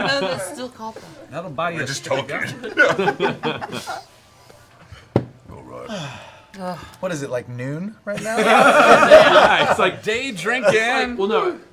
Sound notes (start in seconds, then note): 1.8 laughs; 5.7 sighs; 8.1 laughter; 10.3 singing